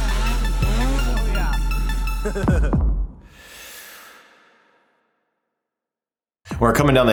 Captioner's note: laughs